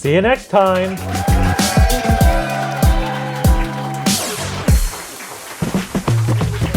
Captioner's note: applause